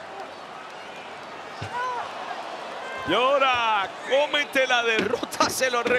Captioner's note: applause